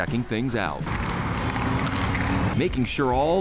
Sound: spray can rattling

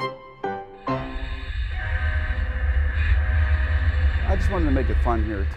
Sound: train hooting

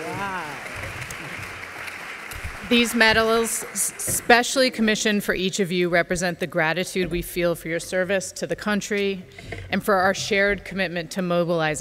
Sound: applause

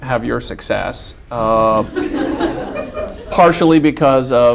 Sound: laughter

